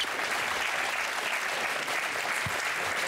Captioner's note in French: applaudissements